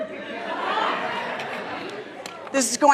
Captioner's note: audience laughs